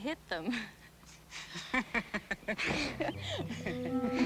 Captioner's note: laughter